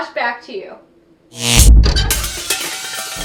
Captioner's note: static noise